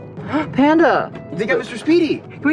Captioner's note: gasp